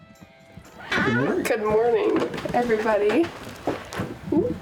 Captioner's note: door hinge squeaking